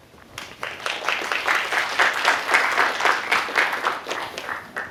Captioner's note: applause